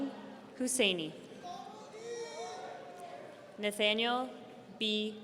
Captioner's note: audience cheering